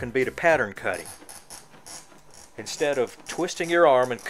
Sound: glass screeching

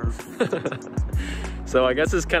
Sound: laughs

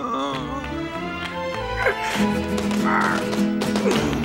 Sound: alejandro grunting

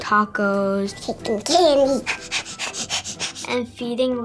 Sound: pants heavily

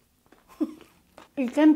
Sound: snickers

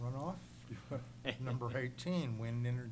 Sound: laughter

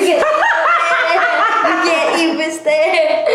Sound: laughter

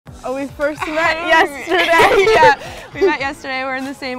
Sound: laughs

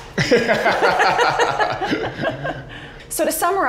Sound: laughs

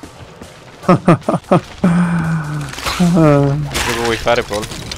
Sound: laughs

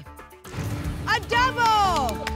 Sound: booms

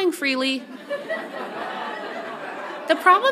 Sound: audience laughs

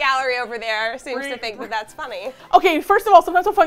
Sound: indignantly

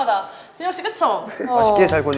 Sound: haha

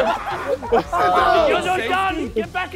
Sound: contestants laughing

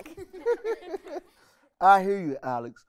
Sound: people giggling

